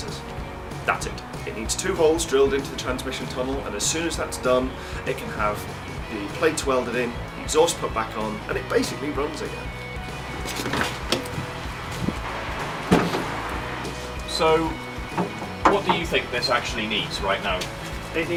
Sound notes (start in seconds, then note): 10.1 door opening; 12.7 bonnet releasing